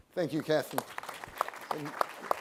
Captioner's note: applause